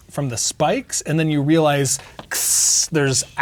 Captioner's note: hisses